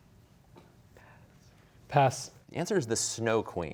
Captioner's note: whispering